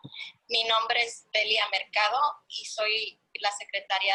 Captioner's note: in Spanish